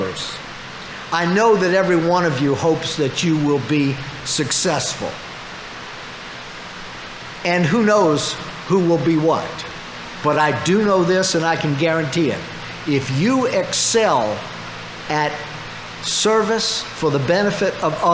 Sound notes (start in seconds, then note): none